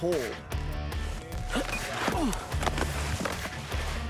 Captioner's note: grunts